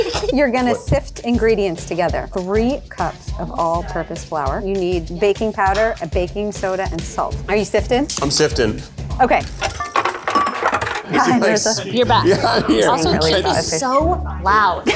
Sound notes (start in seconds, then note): 9.3 coins clinking